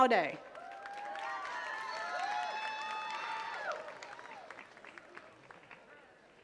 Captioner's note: attendees cheering and clapping